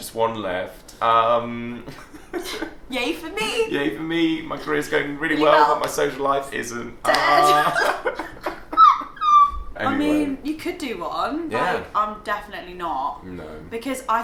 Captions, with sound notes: Just one left. - Yeah for me. - Yeah for me. My career's going really well but my social life isn't. - Dead. (laughs) You could do one. I'm definitely not. - No.